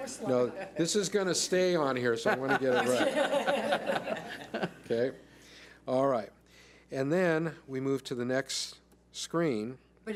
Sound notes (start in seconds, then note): 0.0 laughs; 2.3 laughs